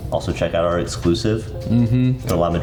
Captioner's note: none